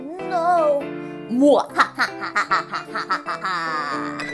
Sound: evil laugh

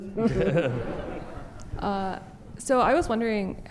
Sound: audience laughter

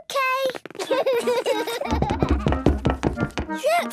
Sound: loud footsteps; Peppa and George laughing

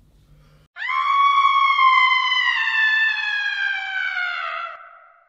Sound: screams

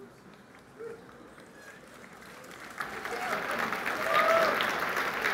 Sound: applause

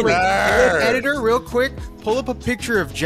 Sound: growling

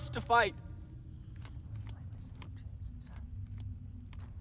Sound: whispers

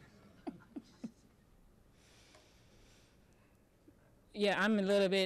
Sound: audience laughing

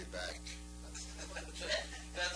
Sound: laughing

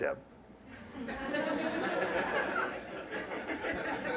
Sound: laughter

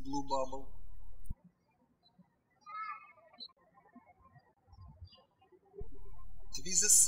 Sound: birds chirping

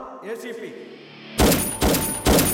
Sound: gun fire

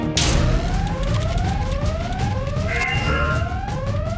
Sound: alarm blaring

